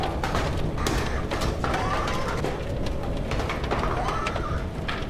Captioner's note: wind blowing